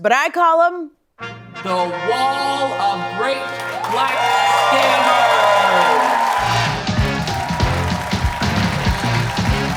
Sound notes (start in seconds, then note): 3.4 cheers and applause